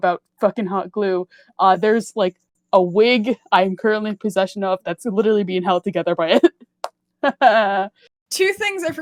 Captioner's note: sad Laugh